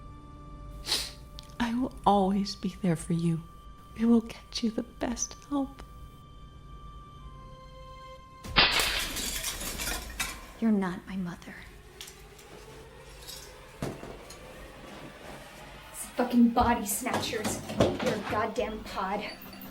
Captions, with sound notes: (sniffs) I will always be there for you. I will get you the best help. (vase shatters) - You're not my mother. (tense music) It's fucking body snatchers, you're a goddamn pod.